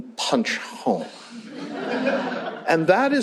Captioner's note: laughter